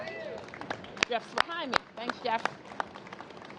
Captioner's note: applause